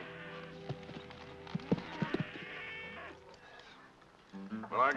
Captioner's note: hoofbeats; cattle moo; guitar plays